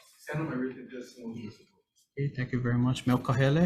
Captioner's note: speaks off mic